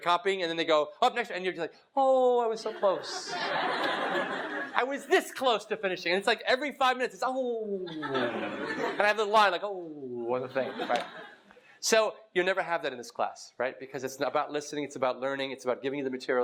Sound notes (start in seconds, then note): 2.7 laugh; 7.8 laugh